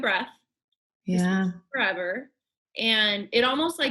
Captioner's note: murmurs